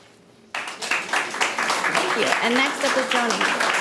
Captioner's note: audience applauding